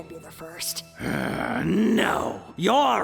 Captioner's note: Kuradeel growls